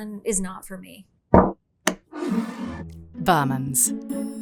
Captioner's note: bottle thuds and scrapes